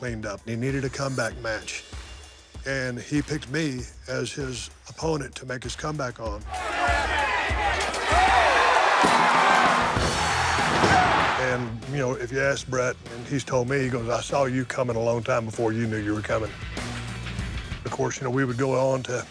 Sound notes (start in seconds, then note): 6.4 crowd shouts and cheers; 7.6 metal clanks; 8.9 barrier clatters on to floor; 9.9 bodies thud on mat; 9.9 crowd cheers; 16.5 energetic rock music